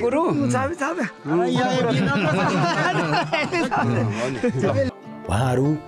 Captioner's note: cheerful conversations and laughter